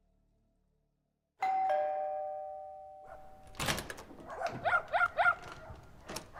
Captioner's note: dogs barking; door bell ringing